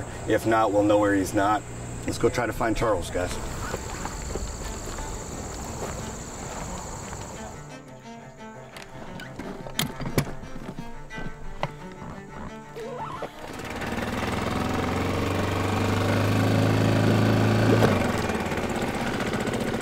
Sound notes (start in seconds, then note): 4.8 bugs chirping; 13.0 boat engine running